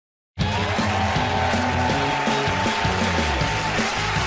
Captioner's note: cheers and applause